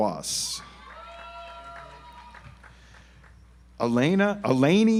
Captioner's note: audience applauds